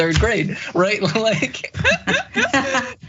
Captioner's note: laugh